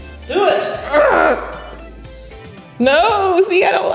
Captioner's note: groans